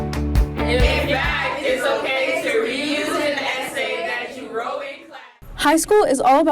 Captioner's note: students Talking